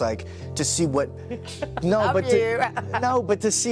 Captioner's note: laughs